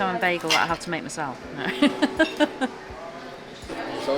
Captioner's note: laughs to self